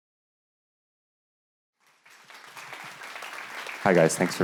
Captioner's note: applause